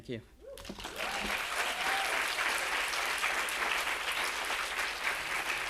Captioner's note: audience cheering and applauding